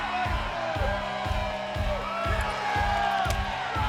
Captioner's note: fans shouting